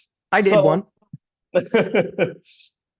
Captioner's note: laughing